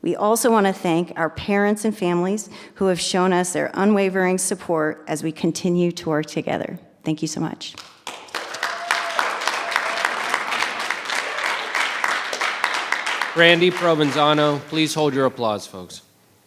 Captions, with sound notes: We also wanna thank our parents and families who have shown us their unwavering support as we continue to work together, thank you so much. (audience applause) - Brandy Provenzano, please hold your applause folks.